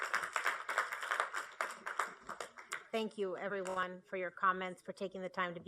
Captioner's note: applause